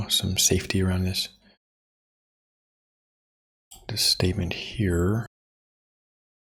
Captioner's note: blank Audio